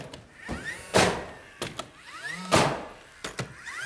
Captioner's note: nail gun firing